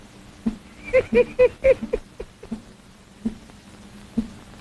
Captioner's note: Mandy laughs